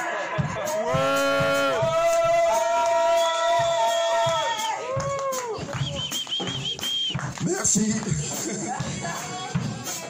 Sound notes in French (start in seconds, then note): 0.0 cris / applaudissements